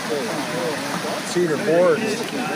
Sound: fish splashing

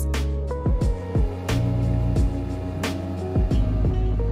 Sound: motorboat engine sound

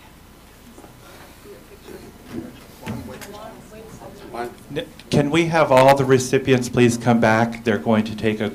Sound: applause

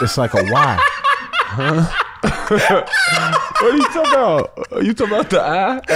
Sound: laughs

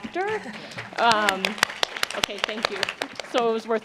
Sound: applause

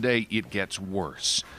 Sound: speaking Foreign Language

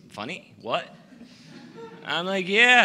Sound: laughter

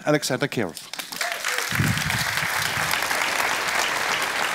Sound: applause

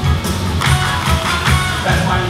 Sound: clapping

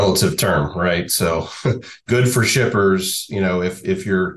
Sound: laughs

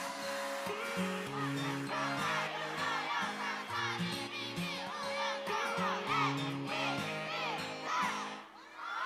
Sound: fanchant

